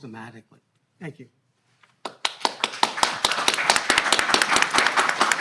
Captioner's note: audience clapping